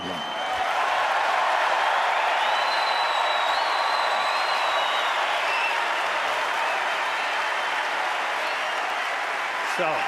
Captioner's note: applause